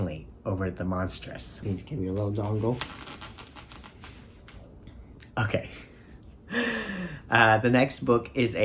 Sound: balloon squeaks

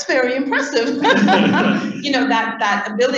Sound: laughter

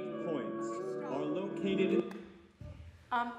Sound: male Voice; clapping

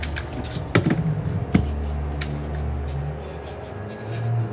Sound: drawer opening; flashlight clicks on; Lily panting and shuddering

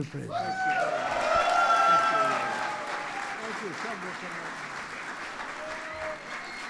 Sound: applause

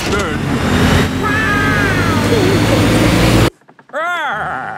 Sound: laughing

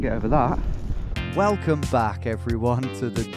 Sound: voiceover

